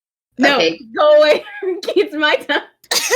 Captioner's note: laugh; laughing